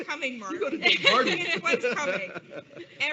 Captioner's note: laughs